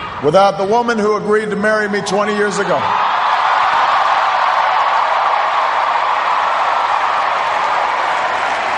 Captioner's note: cheers, applause